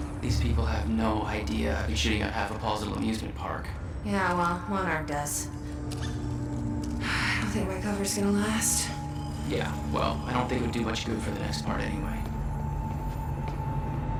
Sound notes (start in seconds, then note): 7.5 sighs